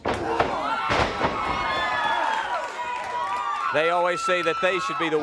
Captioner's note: crowd cheering